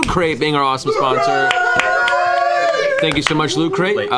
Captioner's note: cheering